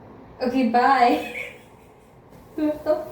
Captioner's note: starts laughing